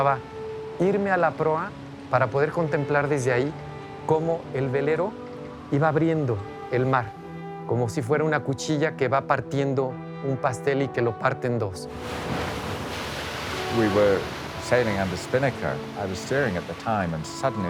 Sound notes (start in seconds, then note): 10.1 waves raging